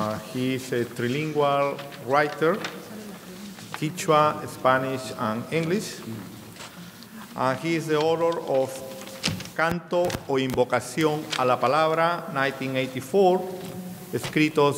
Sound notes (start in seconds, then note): 8.5 speaking in a foreign language; 14.2 speaking in a foreign language